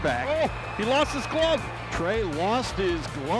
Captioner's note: chuckling